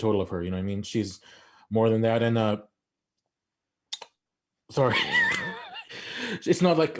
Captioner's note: laughs